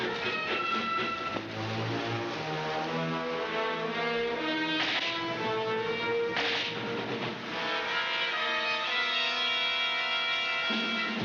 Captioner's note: gunshots